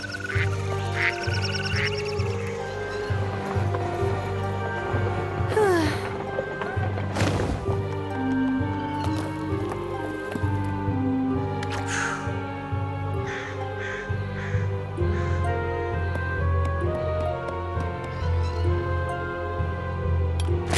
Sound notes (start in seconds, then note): 5.5 sigh